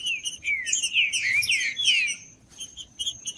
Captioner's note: trinca ferro cantando